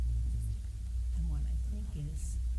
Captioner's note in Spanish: hablar en voz baja